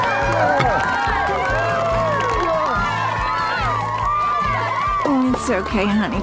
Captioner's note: cheering, applause